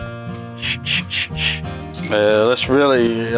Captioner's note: blowing air